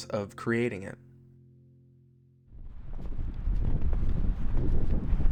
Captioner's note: wind blowing